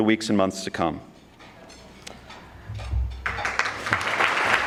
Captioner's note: audience clapping